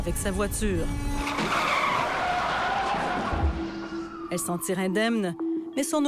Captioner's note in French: crissement de pneus